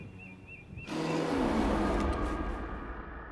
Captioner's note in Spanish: rugido de monstruo